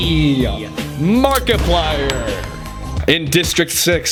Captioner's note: gunshot